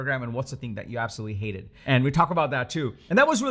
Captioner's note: none